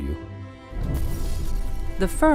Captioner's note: glass crashing